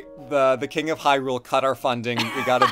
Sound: laughs

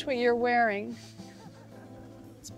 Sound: laughter

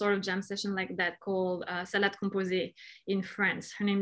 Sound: speaking in foreign language

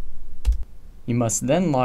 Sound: typing sounds

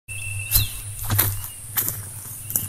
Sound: footsteps

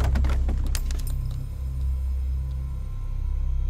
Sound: dropping of pins

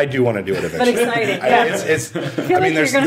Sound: all laughing

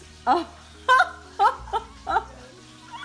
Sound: laughs

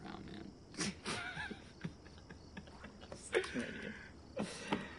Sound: laughing

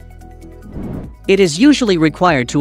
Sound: whoosh

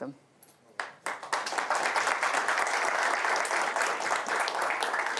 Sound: applause

